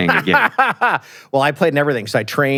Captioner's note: laughs